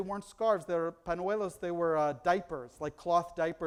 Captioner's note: foreign language